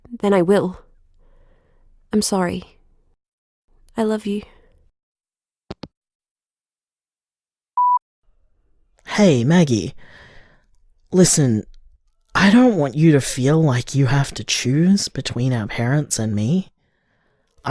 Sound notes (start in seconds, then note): 5.6 hangup